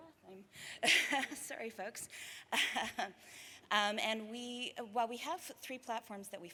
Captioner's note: laughs